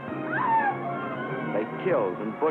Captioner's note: screaming